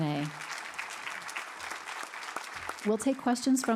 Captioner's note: audience applauding